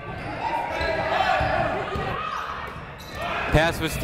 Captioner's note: people shouting in the crowd